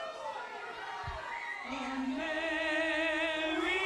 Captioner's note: crowd chatter